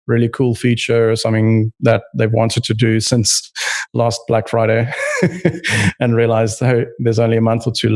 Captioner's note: laughs